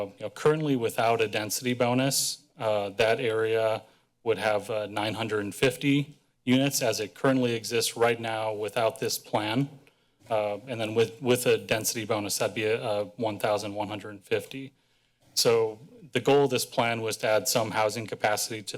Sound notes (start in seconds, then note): none